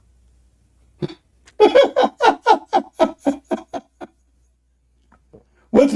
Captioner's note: Ketawa